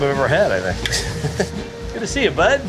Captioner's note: person laughing